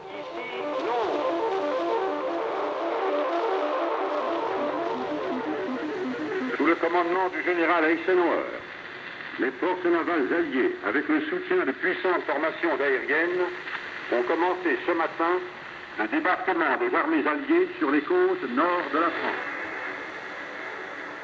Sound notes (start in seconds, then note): 0.1 man speaks in foreign language; 0.6 eerie music; 6.7 man speaking in foreign language